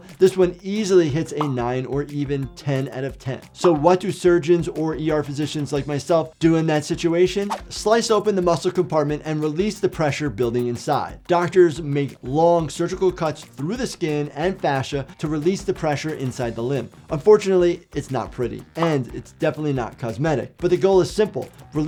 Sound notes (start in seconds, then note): 18.7 bubble popping tone